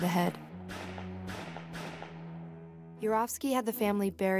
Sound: gunshots

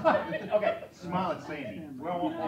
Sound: laughter

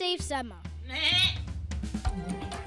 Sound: bleating

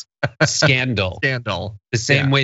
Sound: laugh

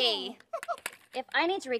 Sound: chuckles

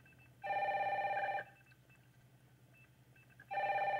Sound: phone rings

